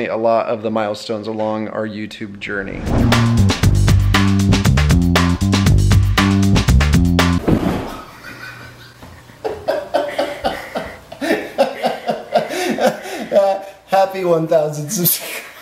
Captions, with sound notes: a lot of the milestones along our YouTube journey. (upbeat music) (laughing) - Happy one thousand subscribe (laughs).